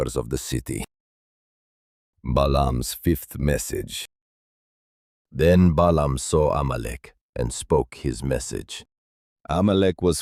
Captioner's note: reciting